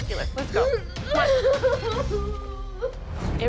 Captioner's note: sobbing